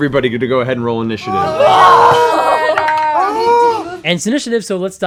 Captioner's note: cast exclaims wordlessly